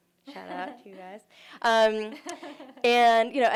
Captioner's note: laughter